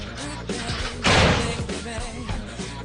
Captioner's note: crashing